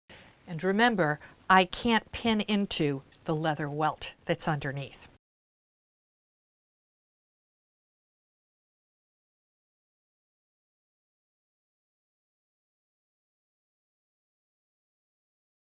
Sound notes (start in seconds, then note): 5.1 no Sound Present